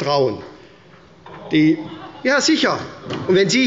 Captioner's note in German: Lachen bei der CDU